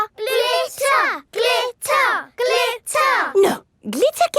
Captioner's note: chanting